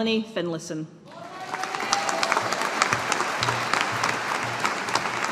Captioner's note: audience applauding